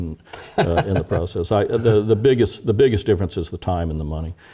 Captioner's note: laugh